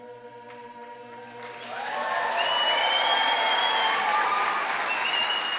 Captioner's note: cheering and applause